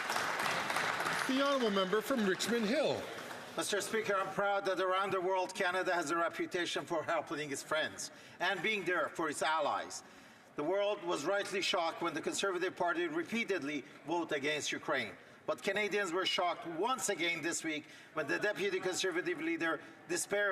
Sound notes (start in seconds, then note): 3.0 some Applause